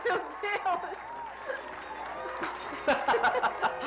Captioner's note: glasses Clinking